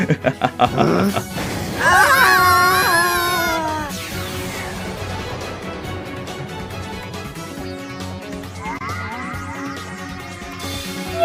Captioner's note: Zazelmare laughs; Darknyan gasps; both yelling